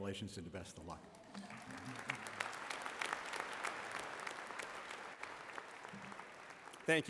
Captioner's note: applause